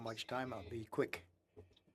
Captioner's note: speaking French